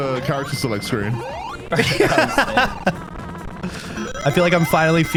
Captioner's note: both laughing